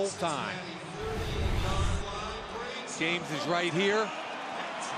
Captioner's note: pa announcement